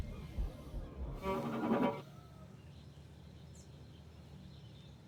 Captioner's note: startling tone